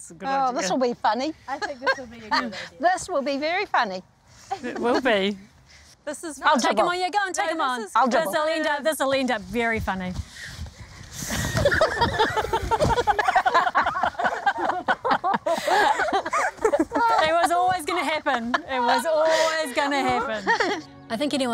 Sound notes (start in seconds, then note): 1.7 laughs; 11.3 laughter